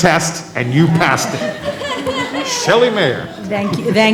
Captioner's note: laughter